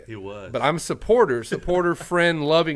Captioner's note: laughs